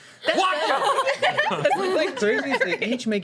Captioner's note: laughing